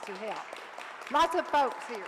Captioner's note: audience applauds